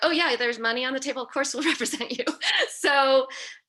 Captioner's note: laughs